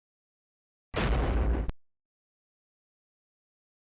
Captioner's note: thud